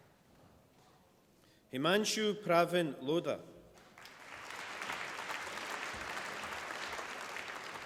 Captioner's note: applause